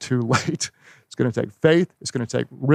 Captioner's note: chuckles